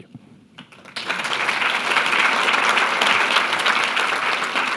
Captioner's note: applause